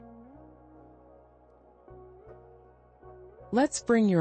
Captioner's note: pause